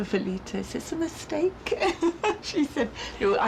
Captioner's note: laughs